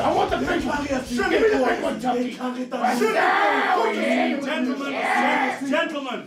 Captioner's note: screaming